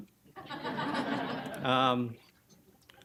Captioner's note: audience laughing